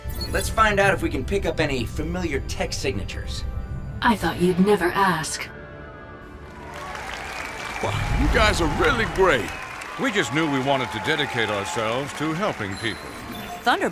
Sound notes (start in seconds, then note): 7.0 cheering